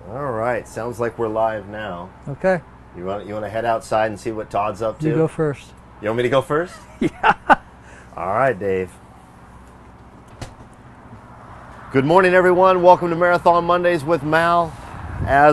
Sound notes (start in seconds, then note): 6.7 laughing